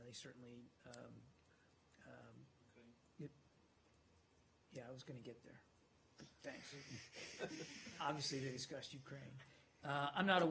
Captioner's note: laughter